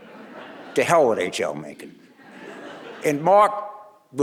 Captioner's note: audience laughing